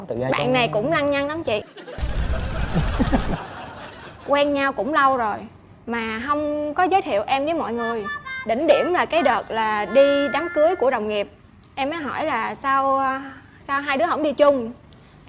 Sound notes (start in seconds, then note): 2.3 laughing